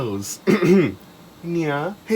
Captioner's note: clears throat